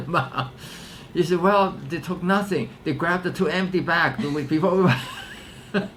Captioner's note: laughs; laughter